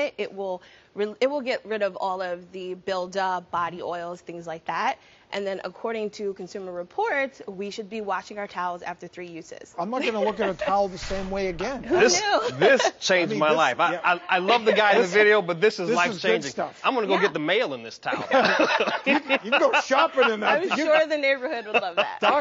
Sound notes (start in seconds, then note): 12.4 laughing; 18.2 laughing